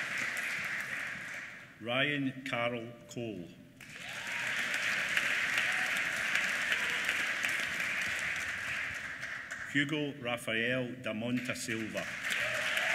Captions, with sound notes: Ryan Karl Cole. (APPLAUSE) Hugo Rafael Da Mota Silva. (APPLAUSE)